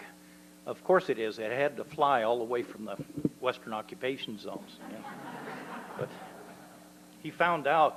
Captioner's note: laughter